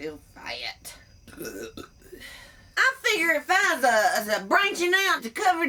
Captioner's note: burps